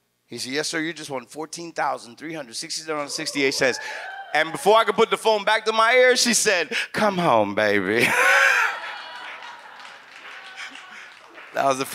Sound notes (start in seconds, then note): 8.0 audience laughs; 8.0 laughs